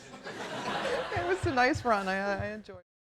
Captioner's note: audience laughing